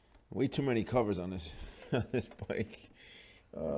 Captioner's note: laughing